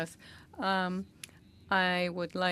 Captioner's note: speaking French